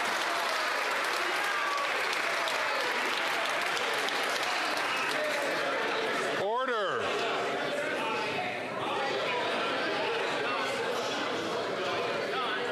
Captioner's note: some Applause